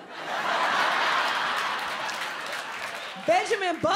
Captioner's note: audience laughs